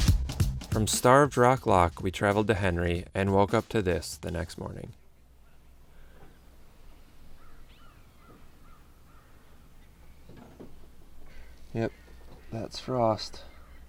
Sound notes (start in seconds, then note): 7.1 birds whistling; 13.6 birds whistling